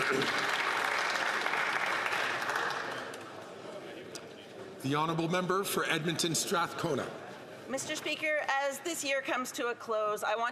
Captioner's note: some Applause